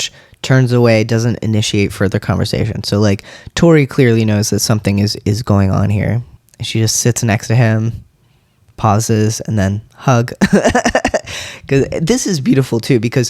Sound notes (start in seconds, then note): 10.4 laugh